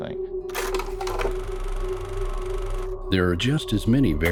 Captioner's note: suspenseful music; film reel clacking